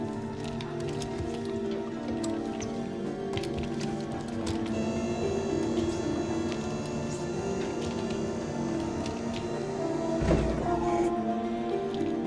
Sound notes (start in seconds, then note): 4.4 elevator whirring